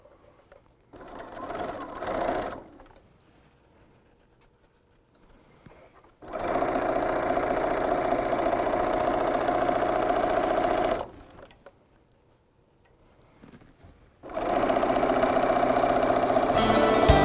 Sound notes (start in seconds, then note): 1.5 sound of a sewing machine